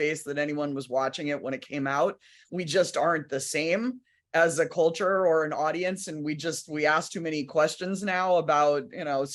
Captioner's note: none